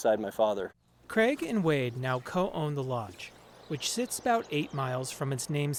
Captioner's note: voice-over